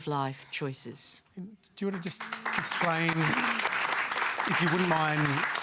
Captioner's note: applause